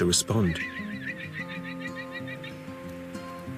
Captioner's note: bleating